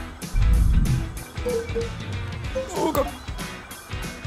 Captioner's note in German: Dumpfes Klirren